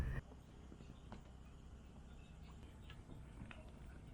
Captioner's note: sounds of calm water